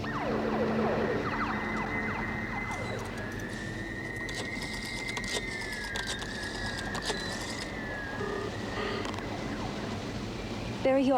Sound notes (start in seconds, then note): 0.1 siren blaring; 4.0 phone dial cranking; 8.2 phone dialing